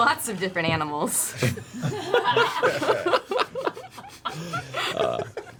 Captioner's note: laughter